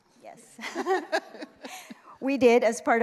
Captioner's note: laughter